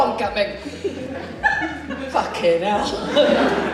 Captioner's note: audience Laughs